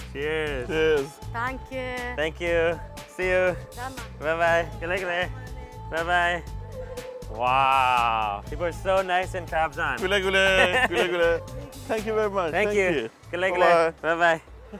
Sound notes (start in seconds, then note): 0.3 laughs; 3.9 woman speaks in foreign language; 4.9 speaks in foreign language; 5.5 woman speaks in foreign language; 9.7 speaks in foreign language; 11.3 woman speaks in foreign language; 13.8 speaks in foreign language